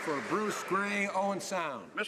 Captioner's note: some Applause